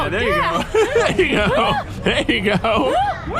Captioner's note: laughing